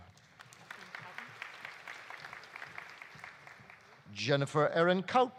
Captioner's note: audience applauding